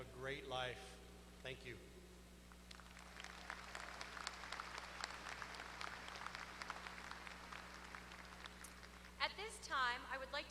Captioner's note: applause